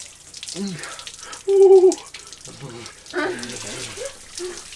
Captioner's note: shivering